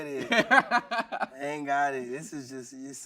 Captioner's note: laughing